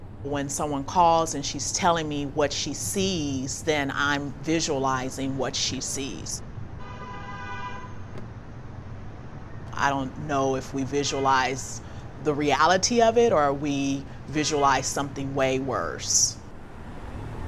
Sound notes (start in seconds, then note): 6.2 honking